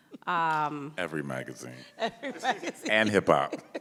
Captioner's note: laughing